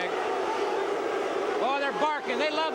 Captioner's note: crowd chatter